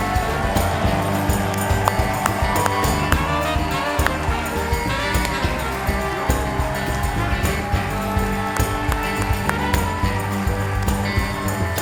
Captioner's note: applause